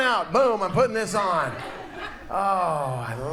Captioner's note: audience laughs